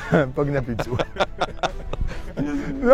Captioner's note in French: Rires